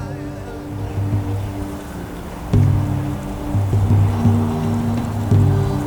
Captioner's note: wind blowing